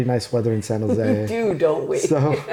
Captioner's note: laughing